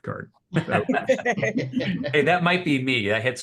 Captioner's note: everyone laughing